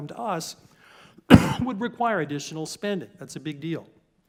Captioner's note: cough